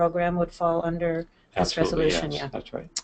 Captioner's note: chatter